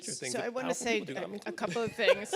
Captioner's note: laughs